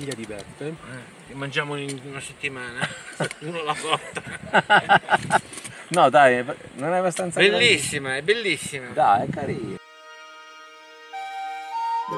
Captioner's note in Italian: Risate